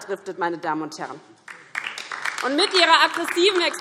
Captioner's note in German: Beifall DIE LINKE